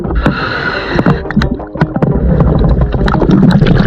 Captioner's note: oxygen mask hums; oxygen mask humming; water bubbling